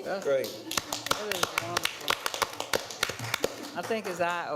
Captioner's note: attendees applauding